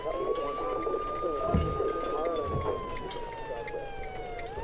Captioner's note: distorted voices echoing